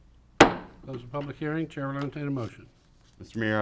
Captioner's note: mayor bangs the gavel